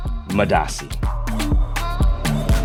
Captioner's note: speaking in foreign language; electronic chanting; upbeat music